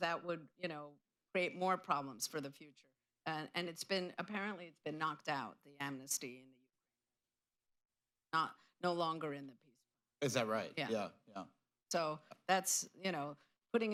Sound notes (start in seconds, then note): 7.7 off mic